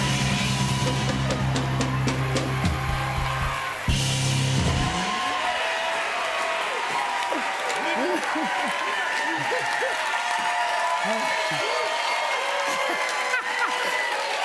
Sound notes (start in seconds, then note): 5.7 cheers and applause; 12.6 laughs